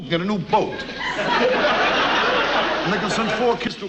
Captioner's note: audience laughs